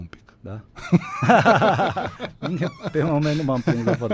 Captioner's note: laughter